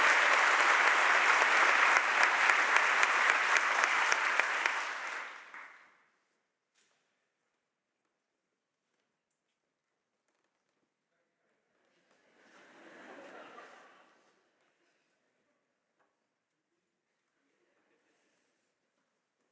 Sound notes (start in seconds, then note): 12.6 audience laughs